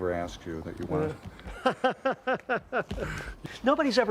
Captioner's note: laughing